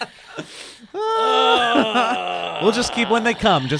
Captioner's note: grunting